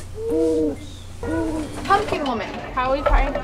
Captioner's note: owls hooting